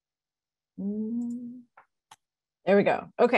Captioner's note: hums